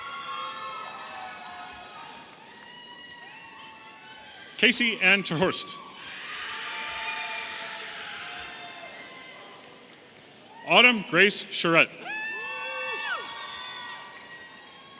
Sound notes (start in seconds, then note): 6.5 audience cheering